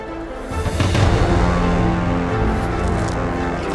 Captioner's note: crackling